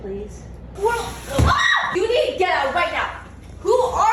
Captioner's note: shrieks